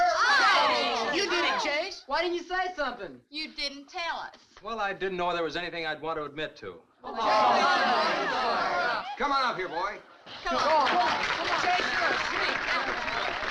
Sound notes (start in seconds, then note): 0.0 crowd groans; 7.1 crowd shouting; 10.5 crowd applauding